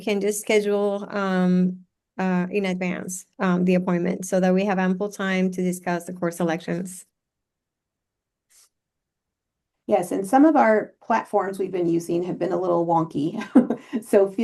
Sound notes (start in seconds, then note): 7.1 silence; 13.4 chuckles